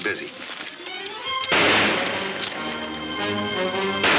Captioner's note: gunshots banging